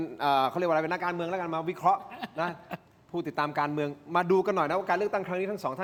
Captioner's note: laughter